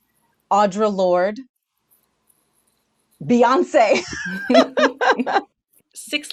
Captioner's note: laughs